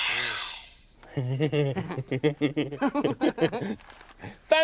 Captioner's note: Groove laughs